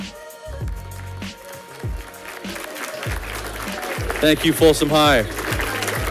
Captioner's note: audience clapping